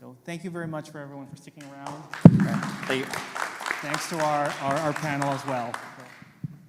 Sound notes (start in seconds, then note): 3.6 applause